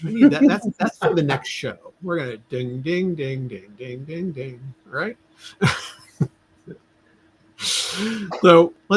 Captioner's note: laughter